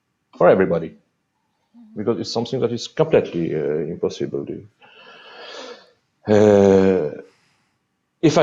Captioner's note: sigh